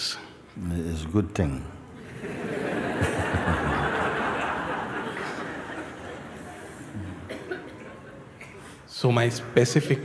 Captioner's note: Lachen